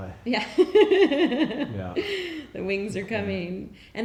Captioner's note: laughing